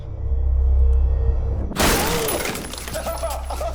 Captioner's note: gunshot